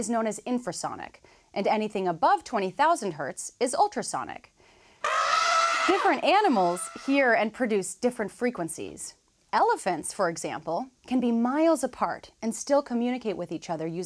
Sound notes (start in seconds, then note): 5.0 elephant trumpeting